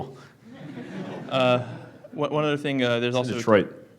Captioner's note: laughing